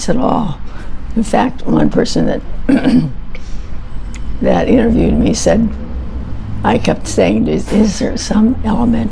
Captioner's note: clears throat